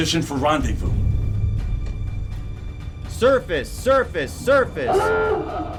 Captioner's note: horn blares